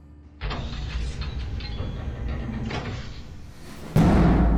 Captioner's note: metal bolt turning